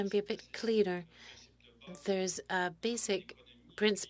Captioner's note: speaking French